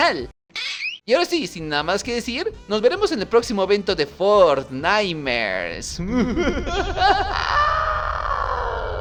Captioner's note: very high-pitched scream of pain; "Evil" laugh